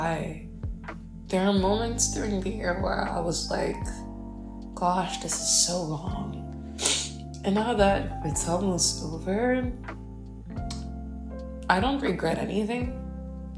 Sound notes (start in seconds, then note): 6.7 sniffles in LMAO